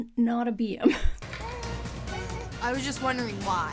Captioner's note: baby crying